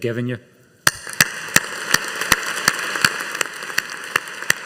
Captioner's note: audience applauding